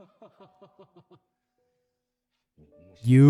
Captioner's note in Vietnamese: tiếng cười